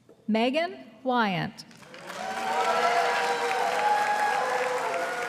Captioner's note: audience applauding